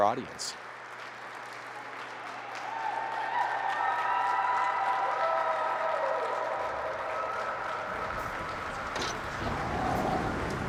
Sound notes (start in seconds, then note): 0.2 audience applauds; 2.0 audience cheers